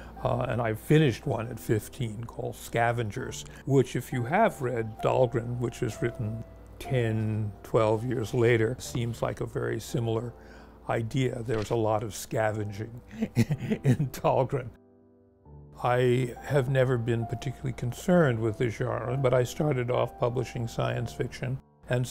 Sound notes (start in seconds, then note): 13.1 chuckles